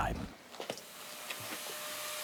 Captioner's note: grinding noises